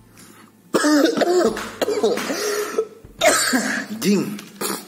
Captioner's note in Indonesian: langsung batuk-batuk